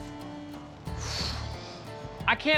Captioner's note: sighs